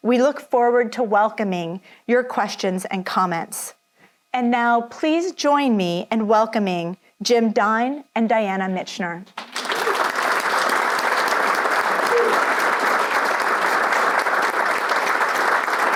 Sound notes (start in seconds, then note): 9.3 audience applauds